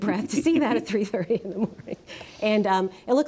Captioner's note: chuckling